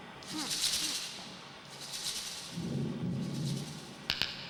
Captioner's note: sounds echoing